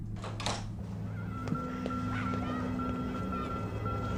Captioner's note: children chattering